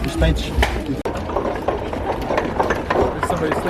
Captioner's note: wheels and hooves clacking